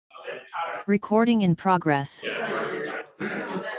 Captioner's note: automated voice